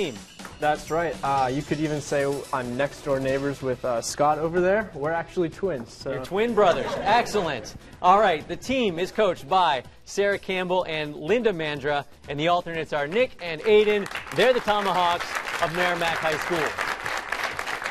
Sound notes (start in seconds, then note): 6.5 laughter; 13.6 applause